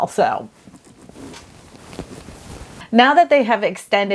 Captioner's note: rustling of clothing